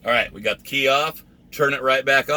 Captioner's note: none